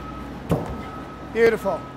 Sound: wood thumps

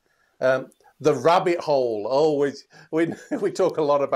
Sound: laughs

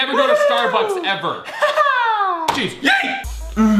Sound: laughing

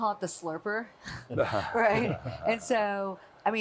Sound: group chuckles

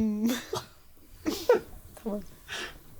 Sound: laughing

